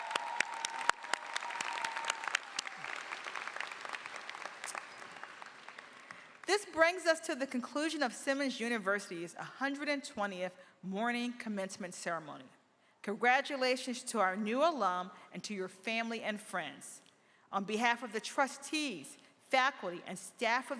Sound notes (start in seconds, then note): 3.6 cheers and applause